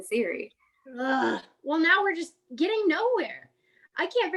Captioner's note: groan